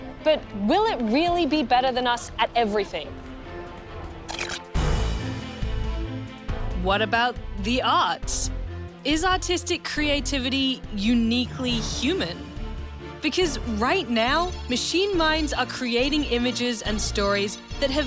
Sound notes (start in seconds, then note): none